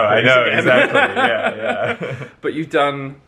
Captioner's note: laughs